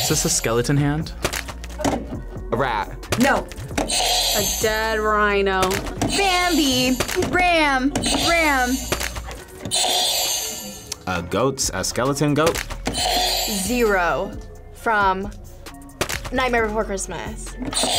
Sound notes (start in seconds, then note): 3.9 buzzer rings; 9.7 buzzer rings; 13.0 buzzer rings; 17.8 buzzer rings